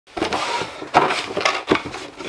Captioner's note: cardboard Scraping